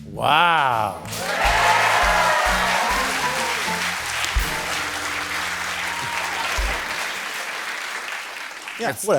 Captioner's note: cheers and applause